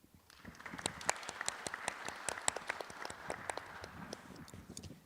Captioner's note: audience applauding